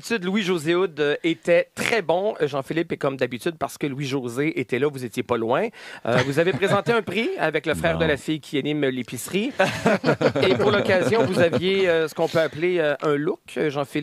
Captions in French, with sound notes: Sinon, comme d'habitude, Louis-José Houde était très bon, Jean-Philippe, et comme d'habitude, parce que Louis-José était là, vous étiez pas loin. Vous avez présenté un prix avec le frère de la fille qui anime "L'épicerie". (rire) Et pour l'occasion, vous aviez ce qu'on peut appeler un look Jean-Philippe.